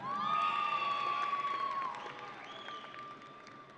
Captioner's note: audience cheering